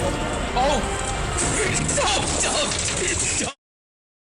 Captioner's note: splatsplatsplatsplatsplatsplatsplatsplatsplat